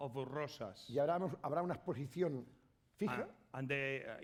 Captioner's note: speaking spanish